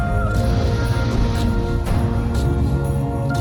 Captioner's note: none